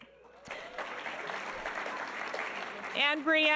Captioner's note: audience applauding